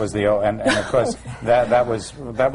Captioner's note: laughter